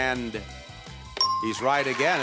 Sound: sound effect dings

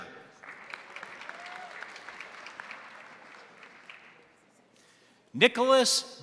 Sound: crowd applauding; crowd cheering

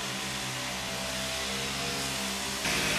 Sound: noisy because weeds are being removed next door

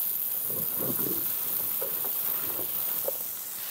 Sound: water spraying

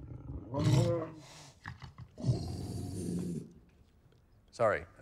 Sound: unknown alien speak

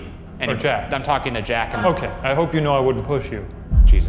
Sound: radio feedback

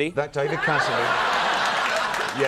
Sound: crowd laughing

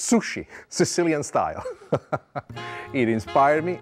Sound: laughs

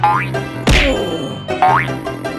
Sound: whap!!!

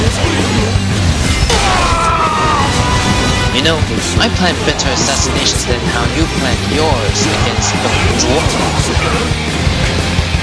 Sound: KO Scream

